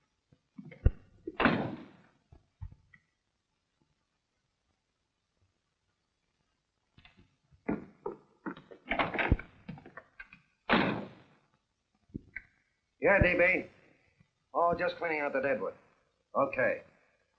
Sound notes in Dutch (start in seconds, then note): none